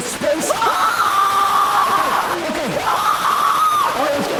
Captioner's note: Isabel screaming